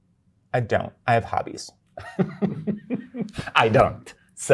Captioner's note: guy laughing